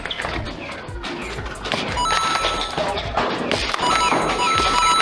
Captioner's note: flywheels revving, blasters thunking, and footsteps; video game dinging noise with battle sounds; rapid dinging